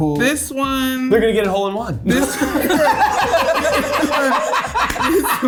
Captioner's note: cast laughing